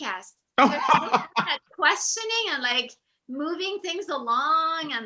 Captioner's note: laughing